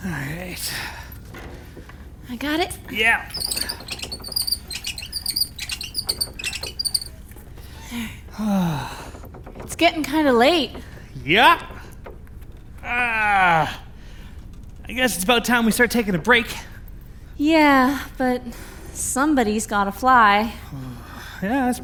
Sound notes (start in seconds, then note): 2.4 curtain squeaking; 8.7 sighing; 20.6 sighs